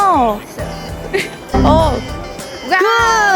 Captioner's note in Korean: 에러 효과음